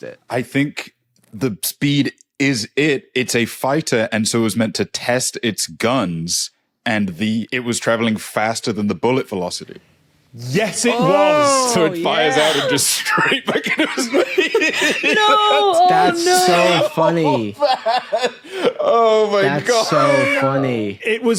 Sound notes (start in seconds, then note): 12.3 wheezes; 17.6 laughs